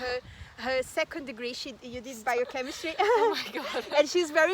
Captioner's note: risos